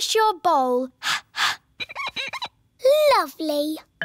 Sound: exhales; glass squeaks

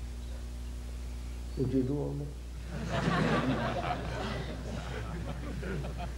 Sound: laughter

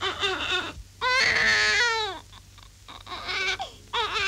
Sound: baby crying

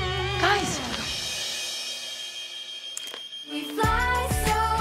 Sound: alarm beeping

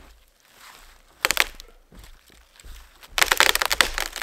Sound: tree cracking

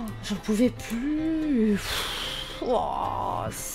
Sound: sighs

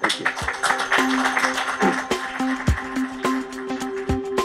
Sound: applause

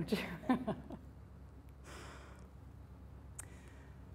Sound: chuckles

